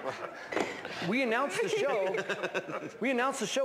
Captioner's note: laughs